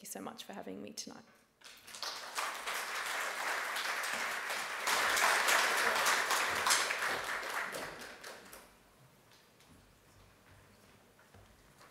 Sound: audience claps

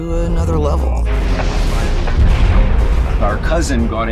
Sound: rocket whooshing

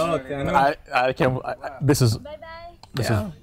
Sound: stammering

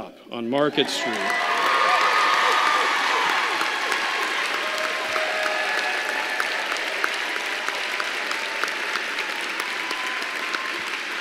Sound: applause

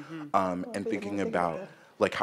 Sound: mumbles

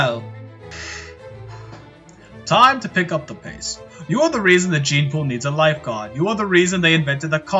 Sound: deep inhale cigar

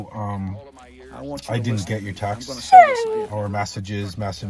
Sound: dog whine

